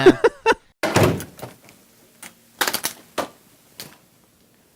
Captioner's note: laughs; door shuts